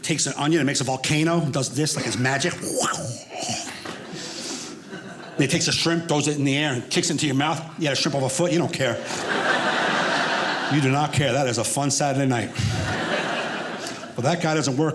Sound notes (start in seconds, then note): 8.8 audience laughing